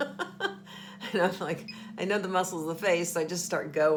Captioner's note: laughing